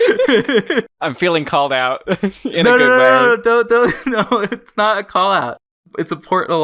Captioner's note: laughs; both laugh